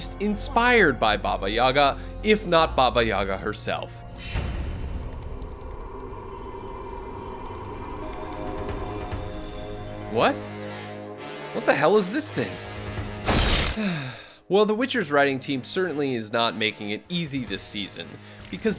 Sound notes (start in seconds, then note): 4.9 ominous music; 13.7 narrator sighs